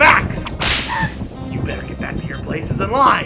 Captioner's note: מתנשף